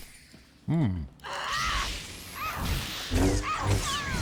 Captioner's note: screams